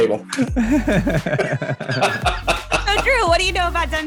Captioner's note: laughter